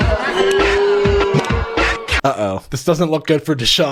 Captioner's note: crowd boos